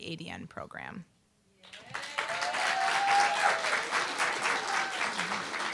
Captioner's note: applause, cheer